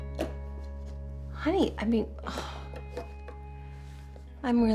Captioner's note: sighs